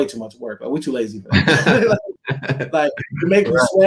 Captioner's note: laughing